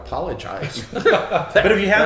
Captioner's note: laughing